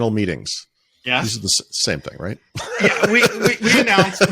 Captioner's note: laughing